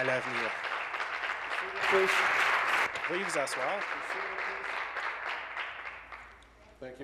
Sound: applause

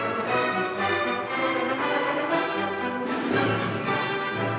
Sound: none

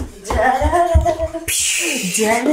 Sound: hums a cheerful tune

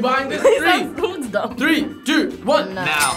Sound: laughs

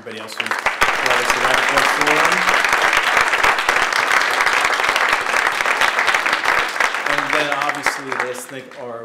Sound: applause

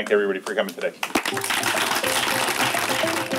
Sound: applause

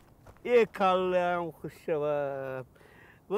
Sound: in Tajik

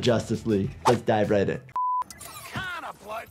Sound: beep

